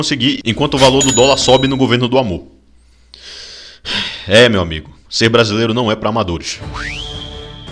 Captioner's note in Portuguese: suspiro